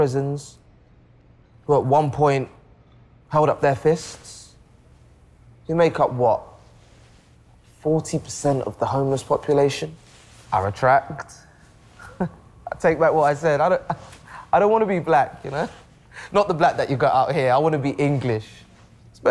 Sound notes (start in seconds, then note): 11.9 laughs